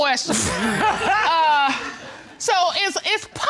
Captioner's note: laughter